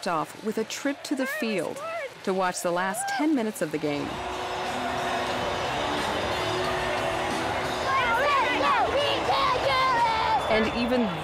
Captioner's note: cheering